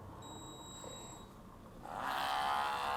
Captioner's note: brewer beeps; brewer buzzing